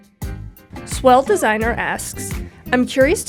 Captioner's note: voiceover